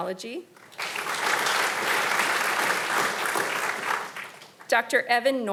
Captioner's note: audience applauding